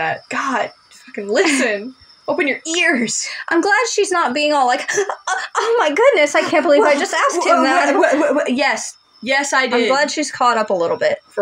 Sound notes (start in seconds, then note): 1.4 chuckle; 5.2 gasp; 8.0 stuttering